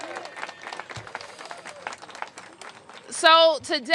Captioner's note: cheering